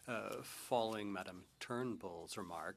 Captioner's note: speaking French